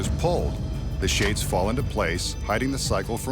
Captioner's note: shades flapping